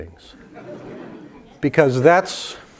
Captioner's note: laugh